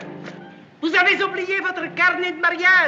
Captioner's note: speaking french